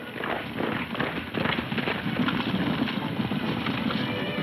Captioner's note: hooves thudding